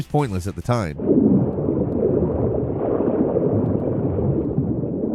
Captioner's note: water gushing